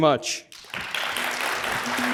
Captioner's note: applause